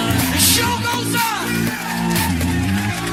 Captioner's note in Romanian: Aplauze